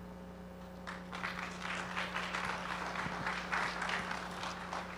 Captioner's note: audience applauding